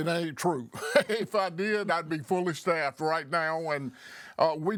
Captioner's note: laughing